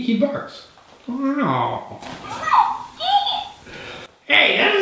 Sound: toy talking

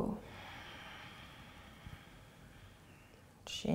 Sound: exhaling

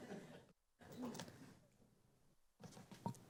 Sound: laughter

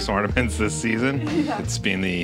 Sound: laughs

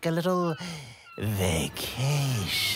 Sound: deep breath

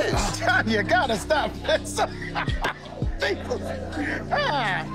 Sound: laughing

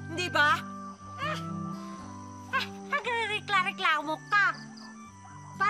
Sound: sighs

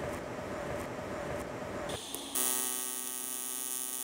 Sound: welder buzzing

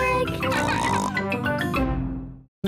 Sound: snorts and giggles

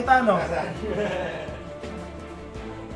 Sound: laughter

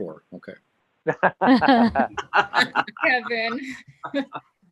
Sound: laughing

